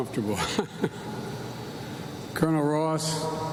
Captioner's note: laughs